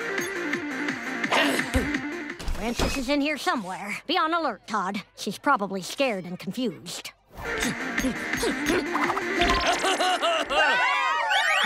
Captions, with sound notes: - Frances is in here somewhere. Be on alert, TODD. She's probably scared and confused. - [grunting] [laughs] [cheering]